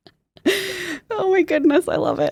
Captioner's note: laughs